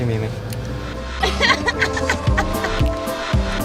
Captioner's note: laughs